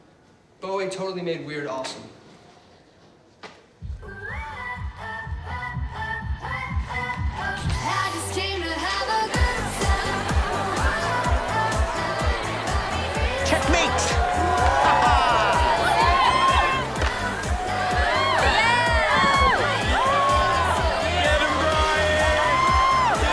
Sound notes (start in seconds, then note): 14.7 laughs; 15.7 yelling; 17.8 cheering; 20.9 yelling